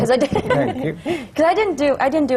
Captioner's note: laughs